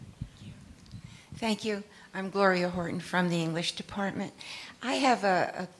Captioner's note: none